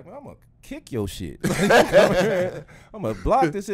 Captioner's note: laughs